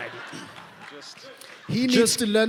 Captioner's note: laughing, applause